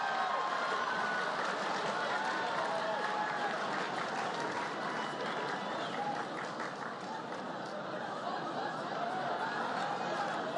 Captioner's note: applause